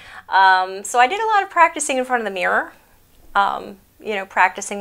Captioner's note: none